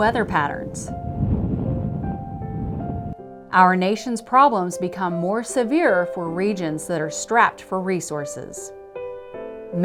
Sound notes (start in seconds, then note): 0.0 wind blowing